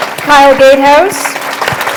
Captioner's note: applause